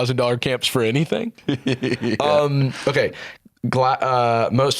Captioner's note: laughing